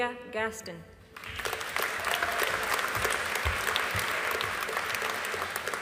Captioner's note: audience applauding